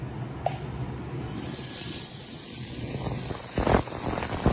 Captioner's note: machine is turned on and ultrasonic sound waves are heard